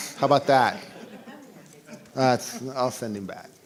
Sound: laughter

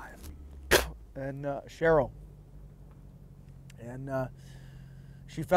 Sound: spitting

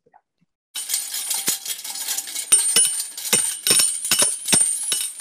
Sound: ringing

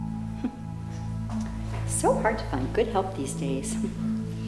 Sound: cheerful voice

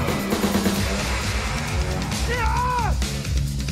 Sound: shouts

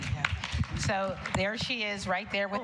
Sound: applause

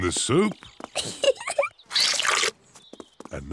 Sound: giggles

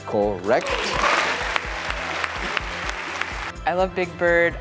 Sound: audience applauds

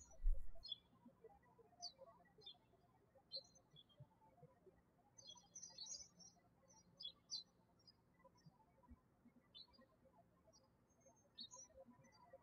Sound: birds chirping

